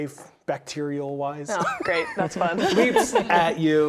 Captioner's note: laughs